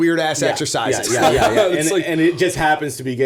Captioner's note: laughter